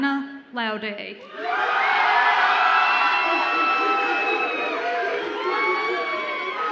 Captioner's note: audience applauds and cheers